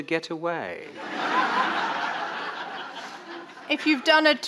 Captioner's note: audience laughing